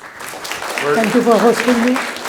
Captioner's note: audience applauding